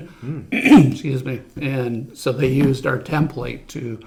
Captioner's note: throat clearing